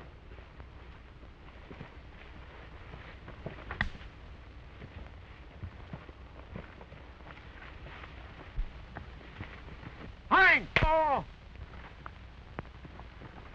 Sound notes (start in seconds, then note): 3.7 twig snapping; 9.7 shouts